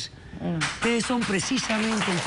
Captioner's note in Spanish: aplausos